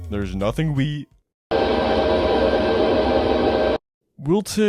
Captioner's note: demonic ambience